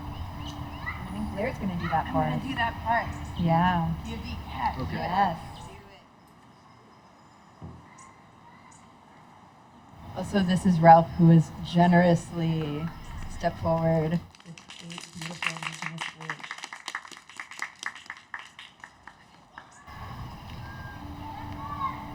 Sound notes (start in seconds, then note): 18.8 applause